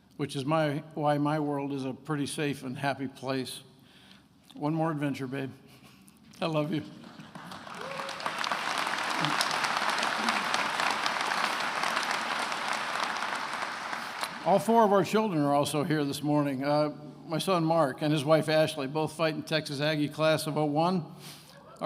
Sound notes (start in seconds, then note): 6.9 attendees applauding